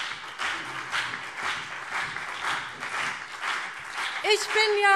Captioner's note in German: Beifall BÜNDNIS 90/DIE GRÜNEN und vereinzelt CDU